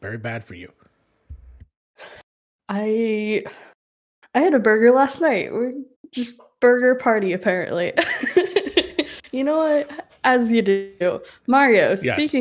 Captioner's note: laughs